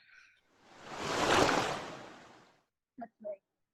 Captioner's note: slosh of water